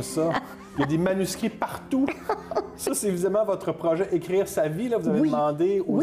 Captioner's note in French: rire de Jeannette